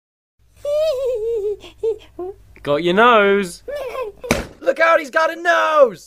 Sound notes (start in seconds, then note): 0.6 giggling; 3.6 more Giggling